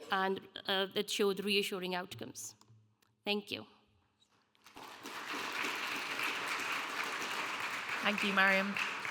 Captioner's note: audience applauding